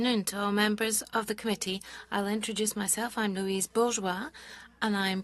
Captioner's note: speaking French